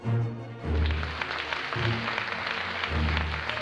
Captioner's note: applause